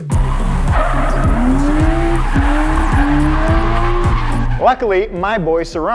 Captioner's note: engine revs; upbeat pop music; tires screech